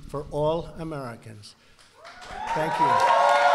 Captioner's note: applause